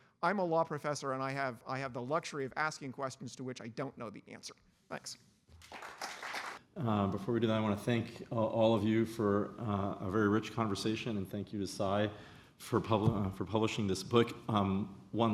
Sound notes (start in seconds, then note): 5.6 applause